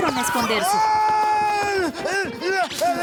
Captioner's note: shouting